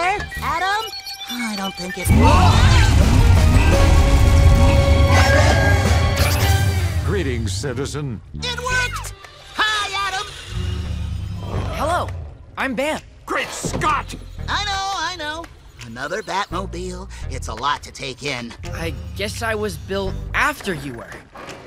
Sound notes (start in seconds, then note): 0.0 continues beeping; 2.1 MOE screams; 2.8 engine roaring